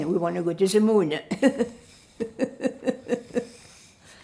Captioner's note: laughing